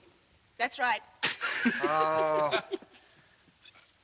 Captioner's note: snickering